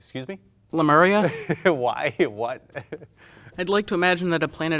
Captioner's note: laughing